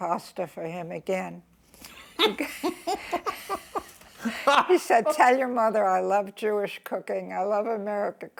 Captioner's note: laughs